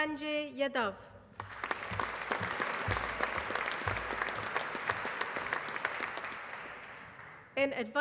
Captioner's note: applause